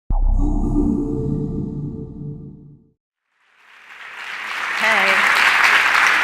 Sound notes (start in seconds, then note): 0.1 whoosh; 3.4 audience applause